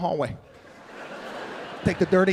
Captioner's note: audience laughing